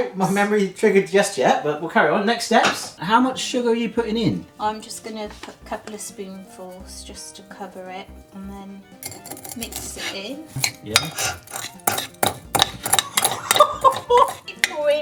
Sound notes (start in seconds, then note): 10.5 spoon clanking on bowl; 13.0 laughing